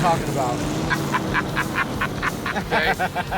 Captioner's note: laughing